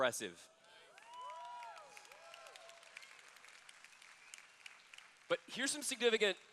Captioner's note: applause